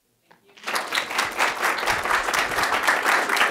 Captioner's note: clapping